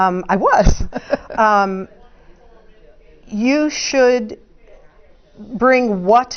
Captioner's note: laugh